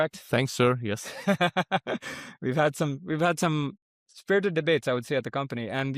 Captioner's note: laughs